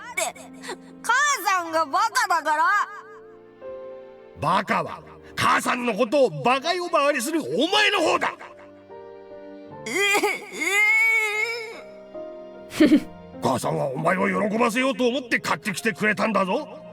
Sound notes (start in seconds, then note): 12.7 chuckles